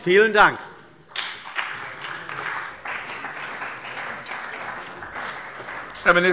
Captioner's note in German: Beifall bei der CDU und dem BÜNDNIS 90/DIE GRÜNEN